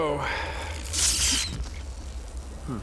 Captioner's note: crackles